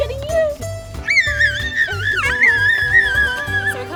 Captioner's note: laughing and squealing